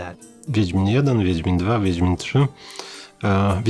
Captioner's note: in Polish